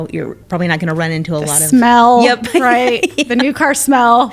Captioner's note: laughing